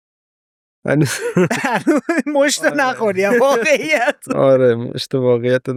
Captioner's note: laughs